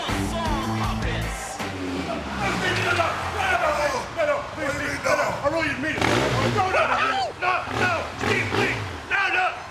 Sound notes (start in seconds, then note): 2.2 ATV engine roaring